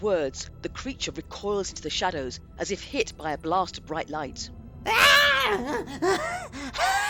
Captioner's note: screams